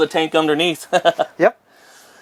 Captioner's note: laughs